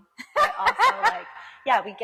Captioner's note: laughs loudly